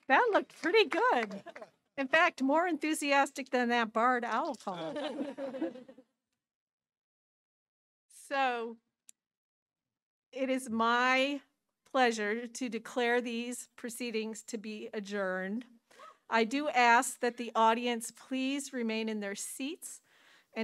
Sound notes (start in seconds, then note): 4.8 audience chuckling